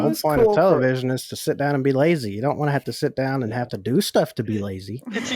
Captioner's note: laughs